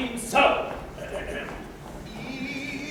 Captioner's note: POOH-BAH clears his throat offstage